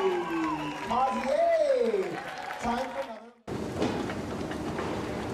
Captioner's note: cheers